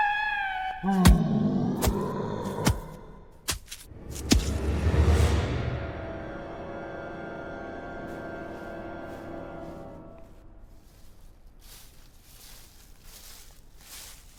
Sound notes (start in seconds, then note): 0.8 creature roaring; 10.8 footsteps approaching